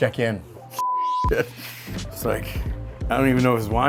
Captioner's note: loud beep